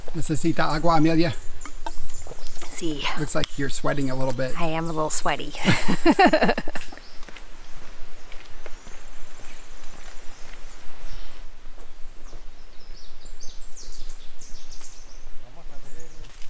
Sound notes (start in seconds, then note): 5.6 laughs; 10.9 birds tweeting